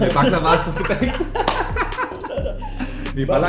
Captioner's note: both laughing